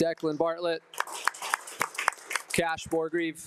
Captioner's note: attendees applauding